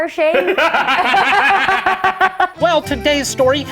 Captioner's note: group laughs